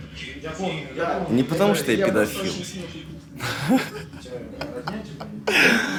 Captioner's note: laughs